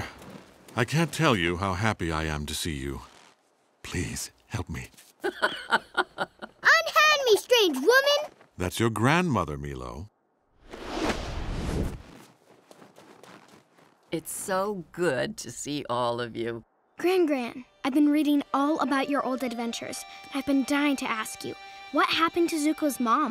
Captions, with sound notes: I can't tell you how happy I am to see you. Please... help me. [laughing] Unhand me, strange woman! That's your grandmother, Meelo. It's so good to see all of you. Gran-Gran, I've been reading all about your old adventures, I've been dying to ask you. What happened to Zuko's mom?